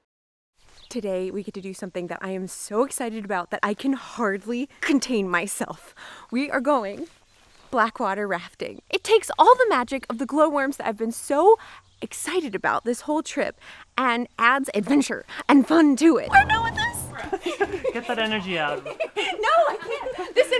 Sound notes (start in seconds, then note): 17.2 laughs; 18.7 giggles